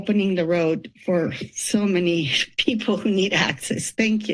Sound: chuckles

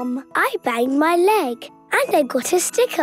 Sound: none

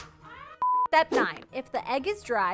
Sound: intermission beeping

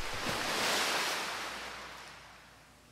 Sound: waves Crashing

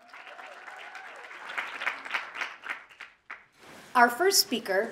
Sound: audience applauding

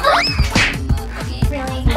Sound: smack

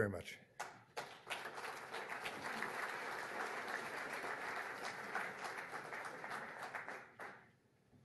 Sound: applause

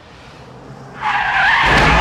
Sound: tires screeching

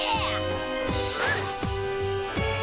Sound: grunts

